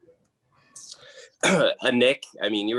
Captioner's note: coughs